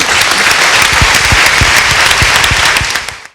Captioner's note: clapping